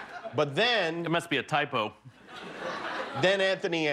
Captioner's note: laughter